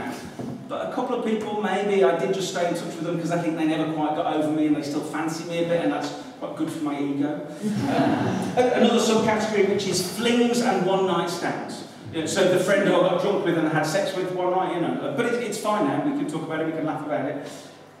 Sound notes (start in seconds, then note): 7.6 laughter